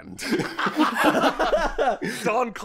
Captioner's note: laughter